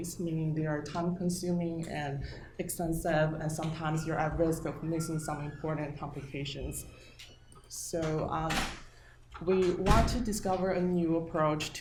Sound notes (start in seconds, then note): 7.3 door slamming